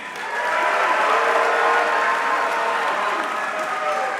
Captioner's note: audience cheering